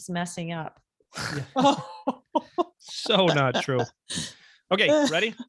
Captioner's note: laughing